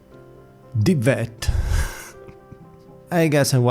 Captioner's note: laughs